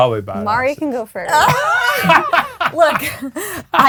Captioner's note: group laughing